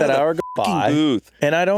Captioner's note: beeping